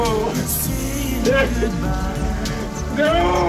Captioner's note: Ace Ventura weeping